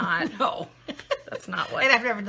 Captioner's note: laughing